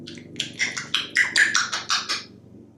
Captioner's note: lip smacking sound